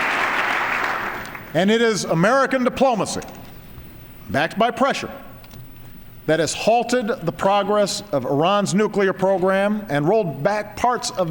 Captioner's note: applause